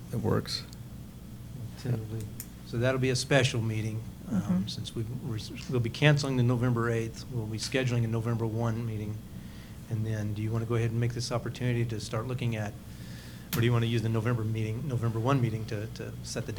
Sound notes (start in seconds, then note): none